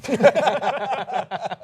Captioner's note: laughter